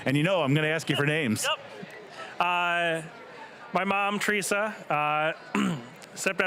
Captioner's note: laughing